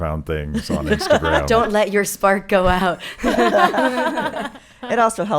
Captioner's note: laughing